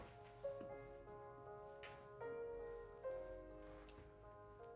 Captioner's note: glasses clink